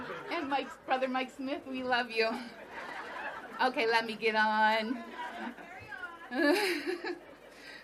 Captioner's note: laughter